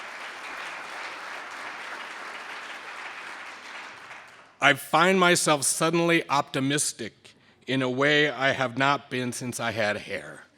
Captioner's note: applause